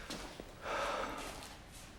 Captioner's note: breathes deeply